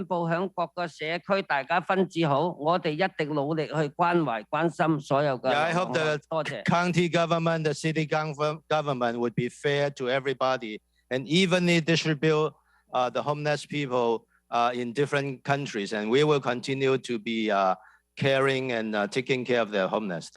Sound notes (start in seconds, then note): 0.9 speaking non-english